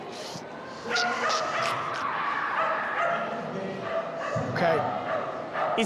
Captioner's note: inhales and imitates stiff body creaking